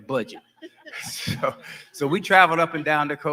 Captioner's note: laughing